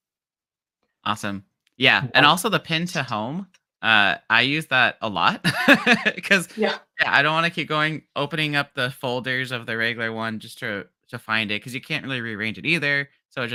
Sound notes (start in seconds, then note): 5.4 laughs